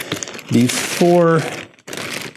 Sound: plastic crunching

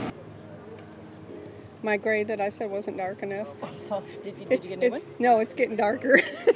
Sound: laughing

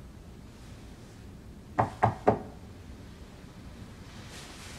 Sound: knock on door

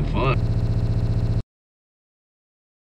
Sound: audio cuts

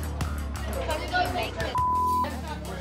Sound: beep

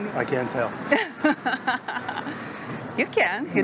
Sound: laughs

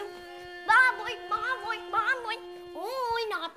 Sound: crying

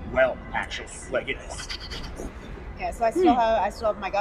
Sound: whoosh noises

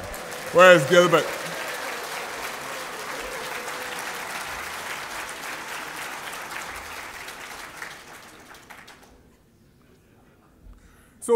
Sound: applause

